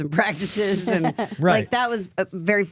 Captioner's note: laughs